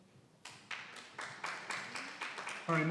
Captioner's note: applauding